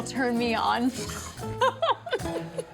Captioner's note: laughing